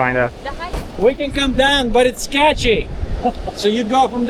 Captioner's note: shouting